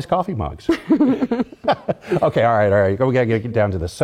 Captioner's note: laugh